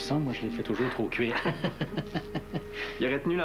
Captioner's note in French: Rire